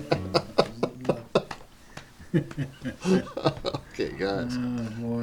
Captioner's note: guitar playing; laughter